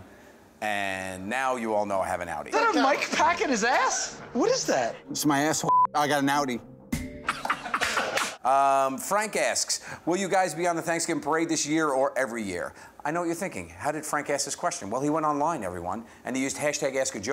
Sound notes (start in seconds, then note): 7.3 laughs